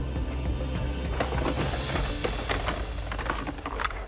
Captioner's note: tense music; objects clattering